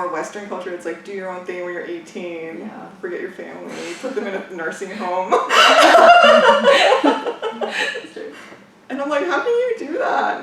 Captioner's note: laughs